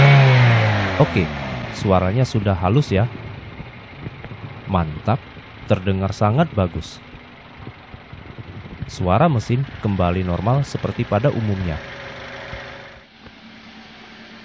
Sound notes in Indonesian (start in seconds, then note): 9.0 suara mesin kembali normal seperti pada umumnya